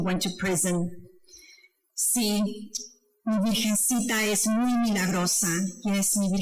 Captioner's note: speaking foreign language